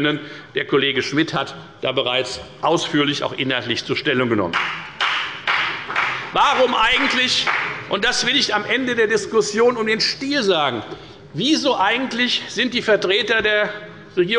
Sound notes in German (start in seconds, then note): 4.5 Beifall bei der FDP